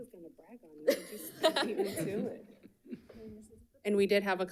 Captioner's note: laughs